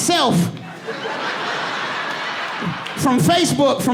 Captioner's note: audience laughing and applauding; laughs